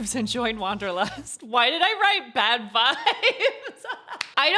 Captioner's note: laughs and claps